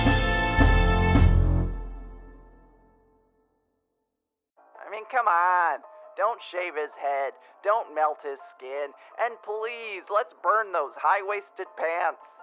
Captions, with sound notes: (voice coming through small speaker) I mean come on! Don't shave his head, don't melt his skin. And please, let's burn those high-waisted pants.